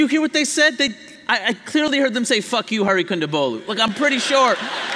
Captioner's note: laughter